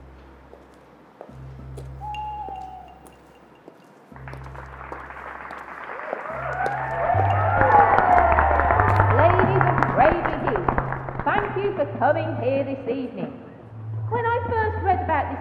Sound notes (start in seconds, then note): 4.6 distant cheering; 7.8 cheering builds